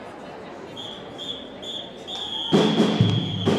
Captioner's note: rhythmic whistling; upbeat drumbeat music